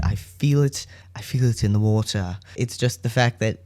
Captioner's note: bad Galadriel accent